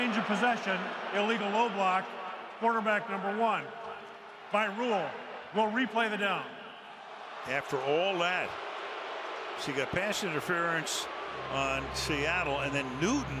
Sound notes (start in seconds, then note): 7.0 crowd exclaims